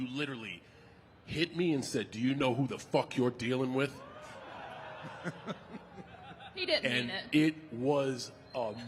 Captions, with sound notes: you literally hit me and said, "Do you know who the fuck you're dealing with?" (crowd exclaims) (The Undertaker laughing) He didn't mean it. And it was amazing